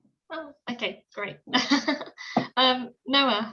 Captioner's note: laughs